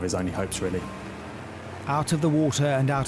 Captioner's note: lifeboat engine whirring